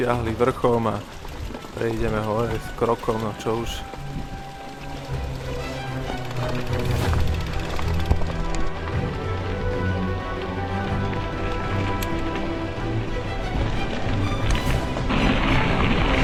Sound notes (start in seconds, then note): 4.0 wind blowing